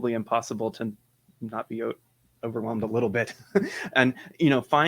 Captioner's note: laughs